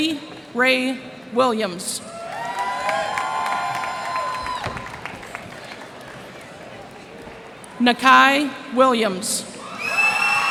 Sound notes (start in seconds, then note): 2.1 cheers and applause